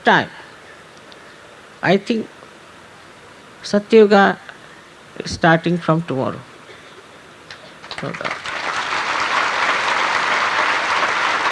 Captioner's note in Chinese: 掌聲